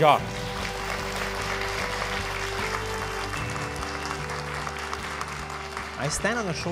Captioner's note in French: Applaudissements